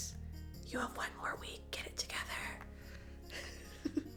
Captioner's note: chuckle